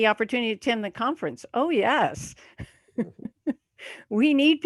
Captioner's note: laughs